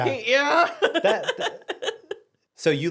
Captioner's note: everyone laughs